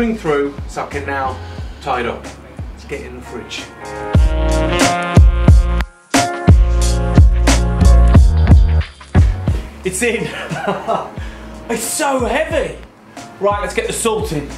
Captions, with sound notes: through. So I can now it now tie it up. Let's get it in the fridge. It's in (laughs) it's so heavy. Right, let's get the salt in.